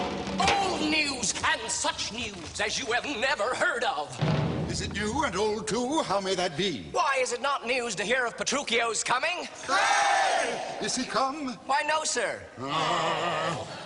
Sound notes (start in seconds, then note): 9.6 cheers